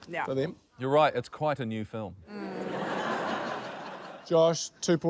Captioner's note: laughter